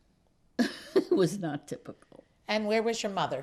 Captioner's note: laughing